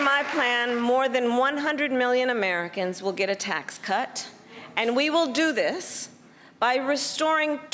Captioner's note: applause